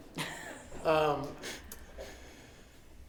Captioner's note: laughing